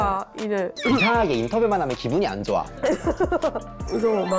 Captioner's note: annoyed SFX